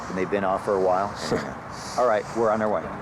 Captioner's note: sighing